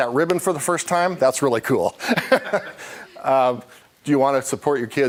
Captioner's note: laughing